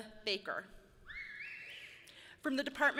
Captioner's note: person whistles loudly